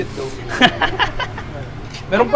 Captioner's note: chuckles